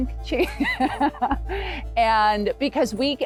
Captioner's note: laughing loudly